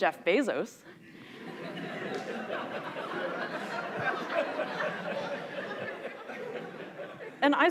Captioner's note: laughter